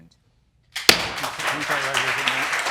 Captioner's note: audience applauding